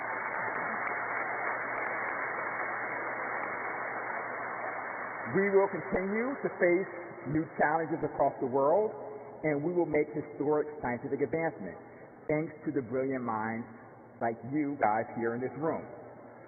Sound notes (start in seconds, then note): 0.0 applause